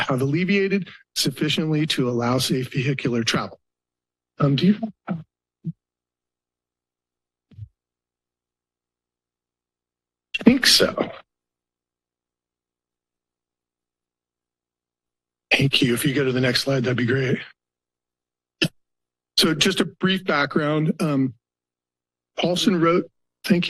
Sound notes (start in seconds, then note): 5.6 silence; 19.4 pause